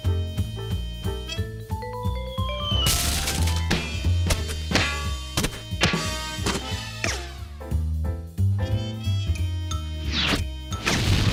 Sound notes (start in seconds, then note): 2.1 whistling; 2.8 clanking